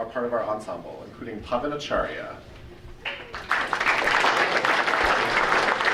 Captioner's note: audience applauding